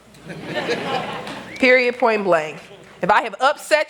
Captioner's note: laughter